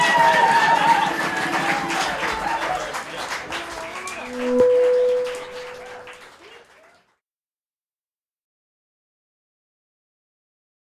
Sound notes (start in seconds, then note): 0.0 audience applause; 4.2 bing